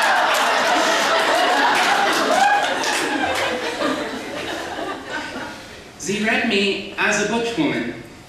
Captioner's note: applause